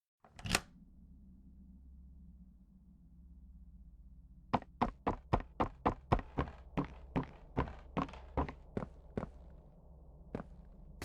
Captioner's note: footsteps